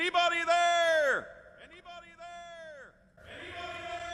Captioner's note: echoing